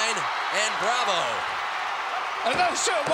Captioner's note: applause